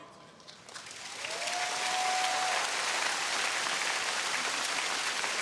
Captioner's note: audience cheering